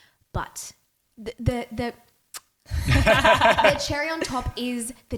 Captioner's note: lips smacking; laughing